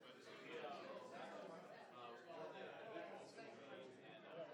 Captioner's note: crowd chatter